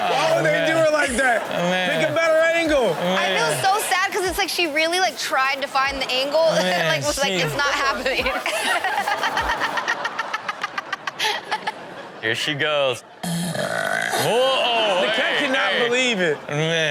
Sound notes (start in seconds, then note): 8.1 Chanel and audience laughing; 13.2 woman burping loudly